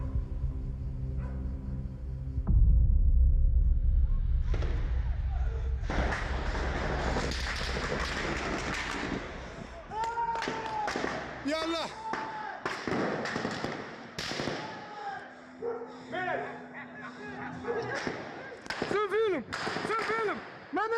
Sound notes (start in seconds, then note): 0.0 dark music continues; 1.1 distant dog barks; 5.9 guns firing rapidly; 10.6 guns firing rapidly; 10.6 people yelling; 16.4 people yelling in foreign language